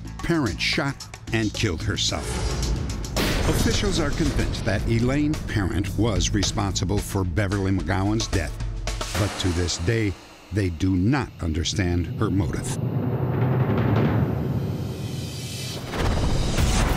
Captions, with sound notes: Parent shot and killed herself. [gunshot] Officials are convinced that Elaine Parent was responsible for Beverly McGowan's death. But to this day, they do not understand her motive.